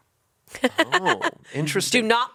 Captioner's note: laughs